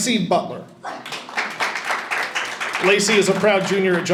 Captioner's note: audience applauding